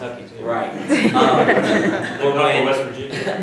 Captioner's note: audience laughs